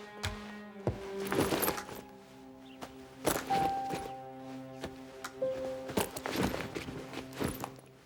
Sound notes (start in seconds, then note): 0.9 bag rustling